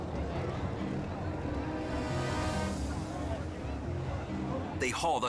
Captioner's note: bystanders chattering